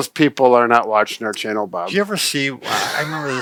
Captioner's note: laughs